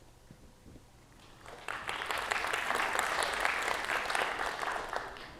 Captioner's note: audience clapping